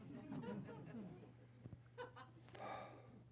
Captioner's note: laughter